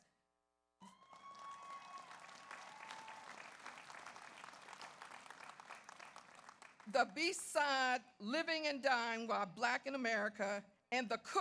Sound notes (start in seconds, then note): 0.8 audience cheers; 0.9 audience applauds